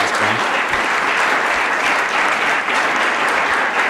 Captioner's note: applause